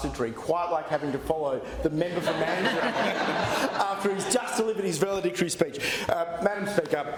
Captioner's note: laughter